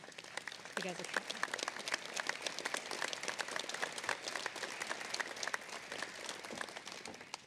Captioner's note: applause